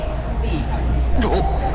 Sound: shock

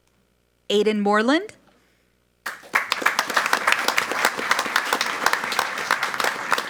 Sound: audience applauds

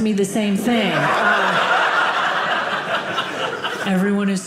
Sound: audience laughing

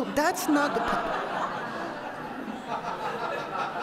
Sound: laughter

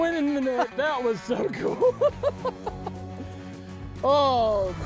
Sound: laughs

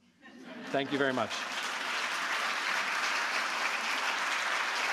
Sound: audience applauds

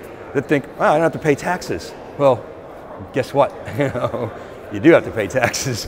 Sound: laughs

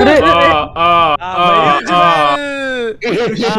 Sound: mockingly

